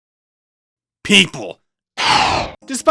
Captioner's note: eldritch screams